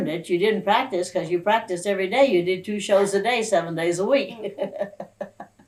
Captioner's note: laughs